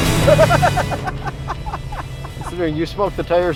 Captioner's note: laughs